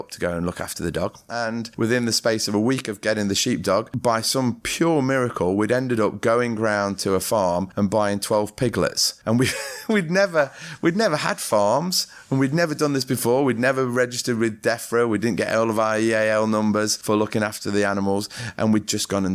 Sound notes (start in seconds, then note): 9.4 laughter